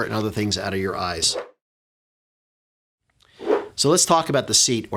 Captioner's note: air whooshing